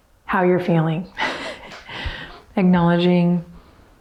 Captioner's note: chuckles